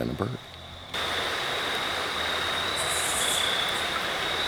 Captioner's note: water rushing